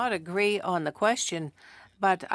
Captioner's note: speaking French